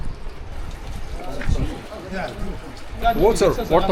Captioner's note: A water jug scoop